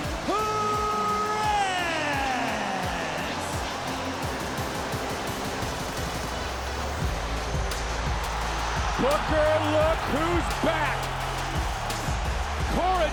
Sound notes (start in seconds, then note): 3.2 audience cheers; 3.2 upbeat music continues; 8.7 audience cheers